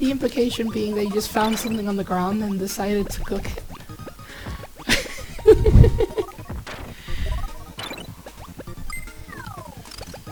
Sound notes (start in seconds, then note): 4.8 laughs again